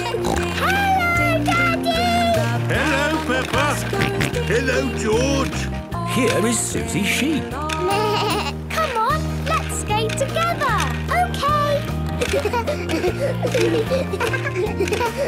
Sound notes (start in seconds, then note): 0.0 snorting; 4.1 George snorting; 8.1 bleating; 12.2 laughter